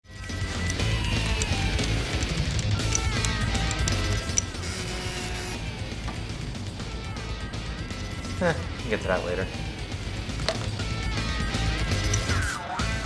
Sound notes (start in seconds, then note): 0.0 rock music; 3.6 phone buzzing